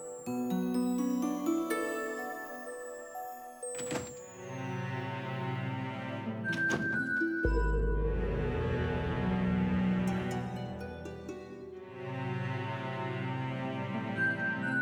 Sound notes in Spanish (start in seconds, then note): 4.0 Ruido de la puerta